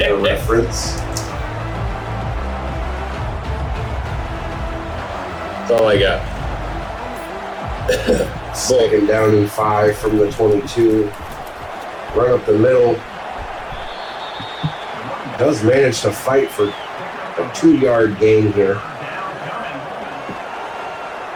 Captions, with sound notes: That's all I got. [Crowd Noises] Second down in five from the 22. Right up the middle. [Crowd Noises] Does manage to fight for a two yard game here. [Crowd Noises]